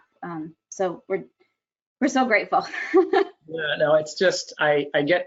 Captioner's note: laughs